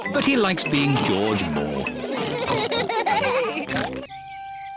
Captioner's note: all laugh